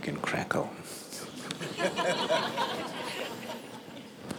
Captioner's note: laughter